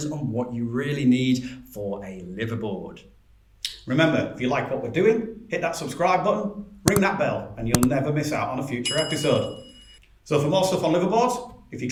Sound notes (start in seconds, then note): 7.7 mouse clicking; 8.8 bell ringing